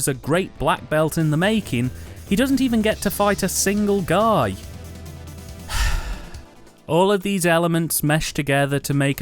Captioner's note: sigh